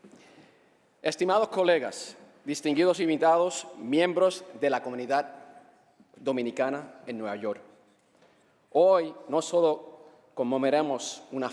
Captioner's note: speaking spanish